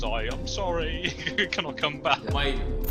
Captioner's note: laughs